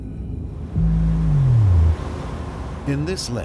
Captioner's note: sea water fizzing